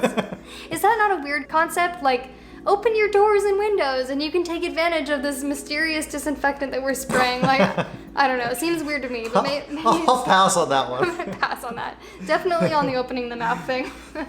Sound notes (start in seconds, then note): 7.1 both laughs